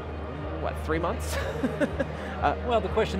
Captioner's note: skeptical laughter